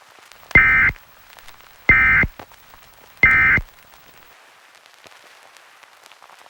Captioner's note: EAS Short Tones Play